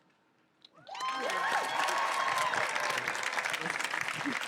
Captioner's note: audience applauds